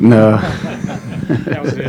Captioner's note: laughter